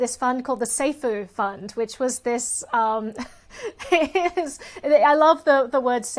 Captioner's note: laughs